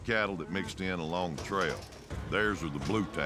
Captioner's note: none